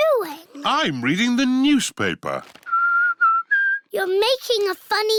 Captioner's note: whistles